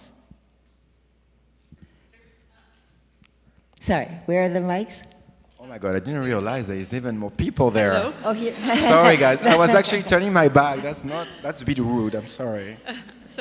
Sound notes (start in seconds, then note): 2.0 distant off-screen voice; 10.8 laughs